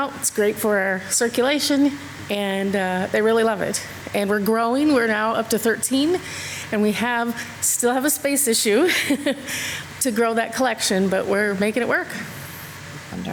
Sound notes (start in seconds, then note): 8.8 laughs